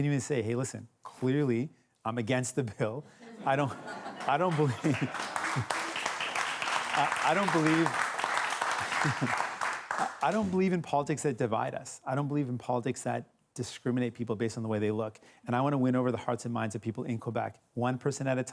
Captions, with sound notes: I HAVE TO SAY, LISTEN, CLEARLY I'M AGAINST THE BILL -- [LAUGHTER] -- [APPLAUSE] -- I DON'T BELIEVE IN POLITICS THAT DIVIDE US. I DON'T BELIEVE IN POLITICS THAT DISCRIMINATE PEOPLE ON THE WAY THEY LOOK. I WANT TO WIN OVER THE HEARTS